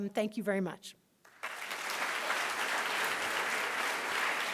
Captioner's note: applause